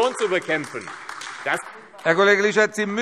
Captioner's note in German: Beifall AfD